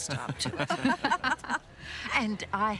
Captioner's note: laughter